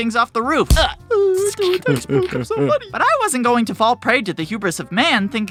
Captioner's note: deep immature chuckling